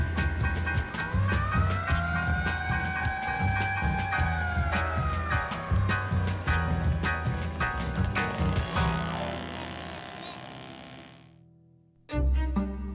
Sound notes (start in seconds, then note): 1.4 siren wailing